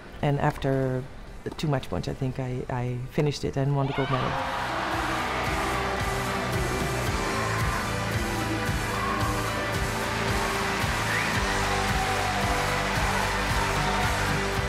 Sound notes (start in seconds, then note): 4.7 crowd cheers; 6.7 triumphant music; 10.8 crowd continues cheering